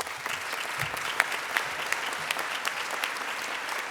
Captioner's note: applause